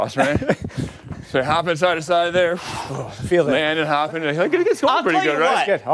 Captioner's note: laughter